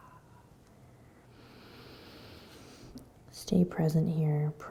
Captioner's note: inhaling